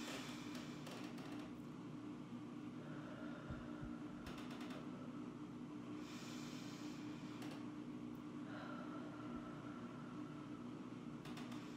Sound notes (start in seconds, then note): 0.0 inhales heavily; 3.0 exhales heavily; 6.0 inhales heavily; 8.5 exhales heavily